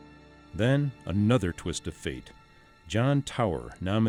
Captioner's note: voiceover